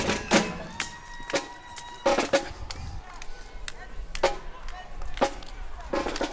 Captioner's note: crowd cheering